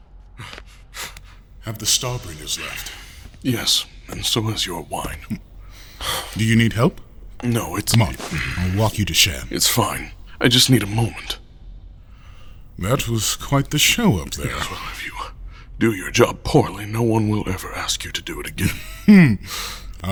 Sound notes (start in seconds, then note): 2.3 breathing heavily; 8.0 breathing heavily